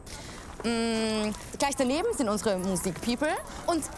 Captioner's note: campus chatter